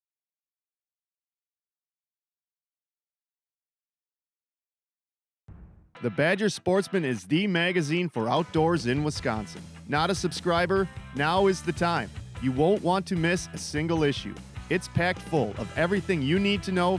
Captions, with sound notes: - [Voiceover] The Badger Sportsman is the magazine for outdoors in Wisconsin. Not a subscriber? Now is the time. You won't want to miss a single issue. It's packed full of everything you need to know